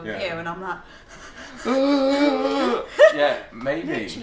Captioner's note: panting and groaning